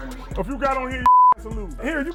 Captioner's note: beep